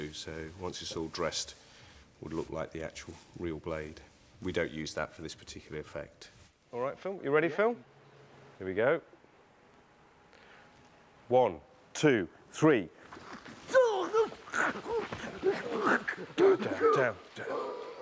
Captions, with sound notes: So once it's all dressed, it would look like the actual real blade. We don't use that for this particular effect. All right, Phil. You ready, Phil? Here we go. One, two, three. [GURGLING] Down, down, down.